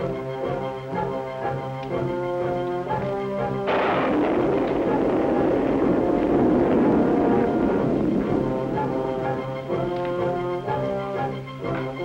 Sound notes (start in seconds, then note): 3.6 thunder clapping; 8.7 suspenseful music